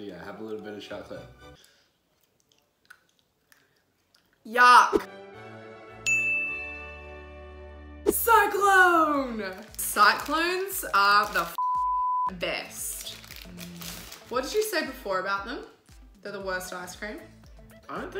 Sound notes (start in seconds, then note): 2.8 crunch; 11.6 beep